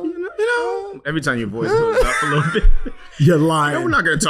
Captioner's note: laughing